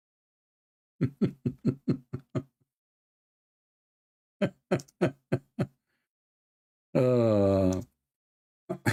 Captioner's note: Ketawa